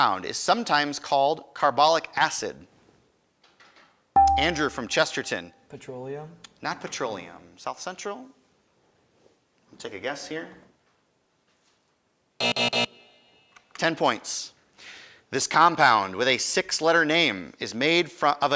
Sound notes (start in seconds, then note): 4.2 buzzer chimes; 12.4 alarm buzzes